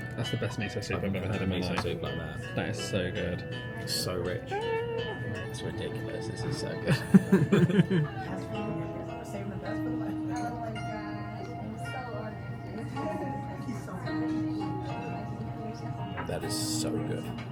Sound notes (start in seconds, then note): 6.8 both laugh; 11.0 oriental music plays